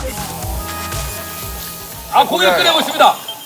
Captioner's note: short ribs cooking with a delightful sound